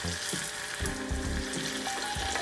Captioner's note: sizzling